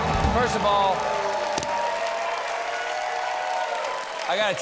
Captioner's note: cheers and applause